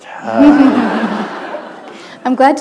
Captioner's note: laughter